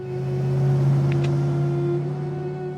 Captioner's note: car engine revving; dramatic music